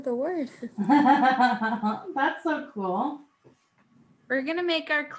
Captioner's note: laughs